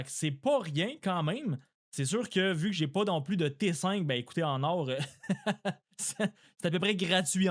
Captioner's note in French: rires